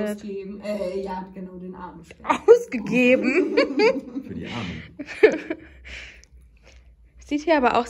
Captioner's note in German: Gelächter